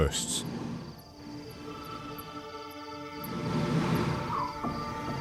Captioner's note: elephants rumbling